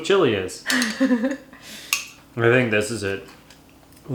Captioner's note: chuckles